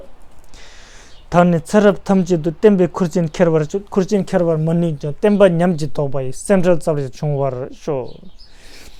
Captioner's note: tibetan